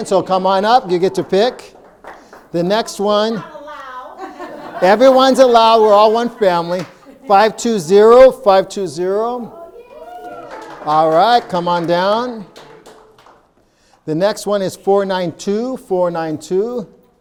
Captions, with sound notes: So come on up, you get to pick. (audience applauding) The next one. I'm allowed. (audience laughing) Everyone's allowed. We're all one family. 520, 520. (audience cheering and applauding) All right, come on down. The next one is 492, 492.